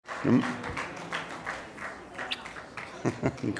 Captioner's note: applause